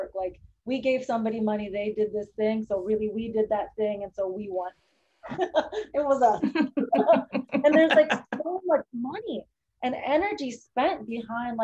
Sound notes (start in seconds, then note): 5.3 chuckles; 6.2 laughter